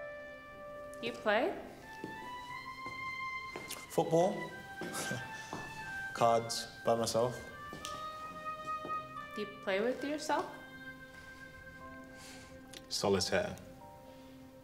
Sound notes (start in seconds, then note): 5.3 laughs